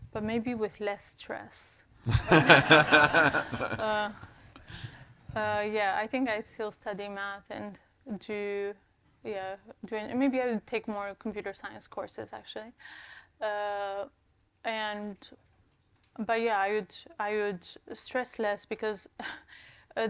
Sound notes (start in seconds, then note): 2.1 all laughs